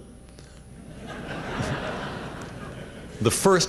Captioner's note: laughter